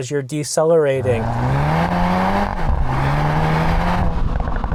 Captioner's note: car engine revs